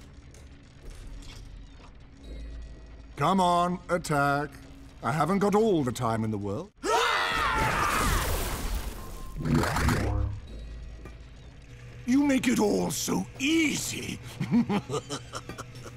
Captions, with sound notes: Come on, attack. I haven't got all the time in the world. [grunting] You make it all so easy. [laughing]